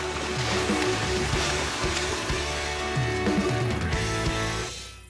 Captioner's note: splashing